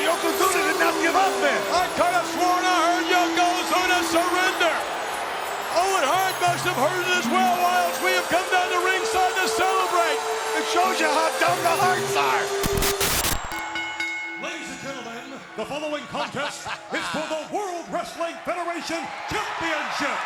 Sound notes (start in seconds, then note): 13.8 bell rings; 20.0 audience cheers